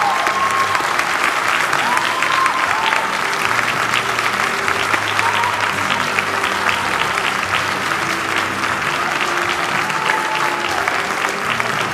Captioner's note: cheering and applause